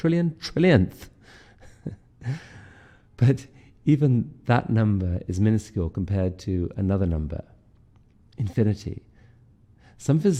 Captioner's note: laughter